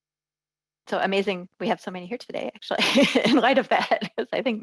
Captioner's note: laughs